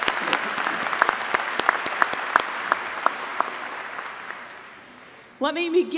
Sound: applause

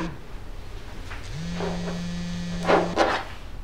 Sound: buzzzz

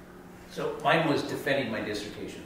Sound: voiceover

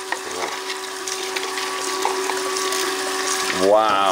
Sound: water runs

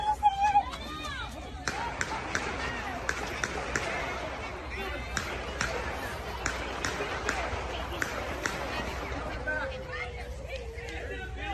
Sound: gun shots

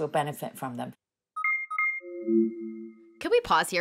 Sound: device chiming

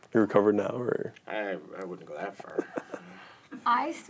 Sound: chuckles

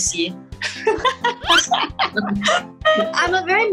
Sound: laughs

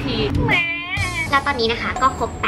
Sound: baby crying

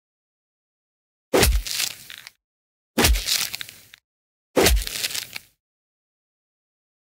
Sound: sound of impact

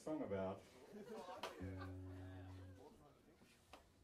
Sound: audience laughing

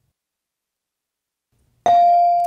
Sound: bell dings

